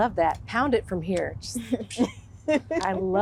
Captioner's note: laughing